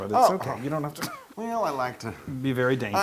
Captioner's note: laugh